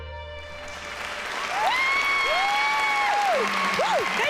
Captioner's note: cheering and applause